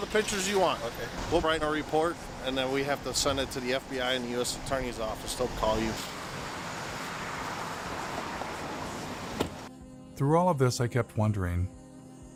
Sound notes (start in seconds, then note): 6.3 traffic whizzing; 9.2 slamming